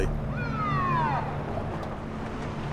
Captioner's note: police siren blares